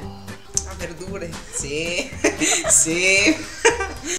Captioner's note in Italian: ironico